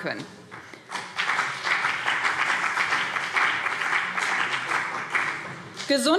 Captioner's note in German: Beifall BÜNDNIS 90/DIE GRÜNEN und CDU